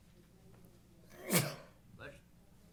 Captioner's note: sneezes